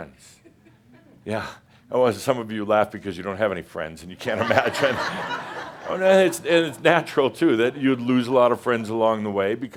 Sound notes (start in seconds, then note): 4.2 laughter